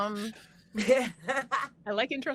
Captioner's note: laughs